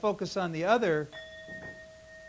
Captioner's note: bell ringing